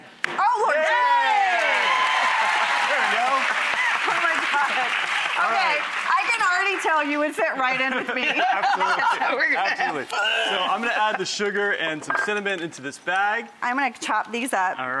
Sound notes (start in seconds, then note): 0.1 loud pop; 0.4 cheering; 3.7 laughing and cheering; 10.1 laughing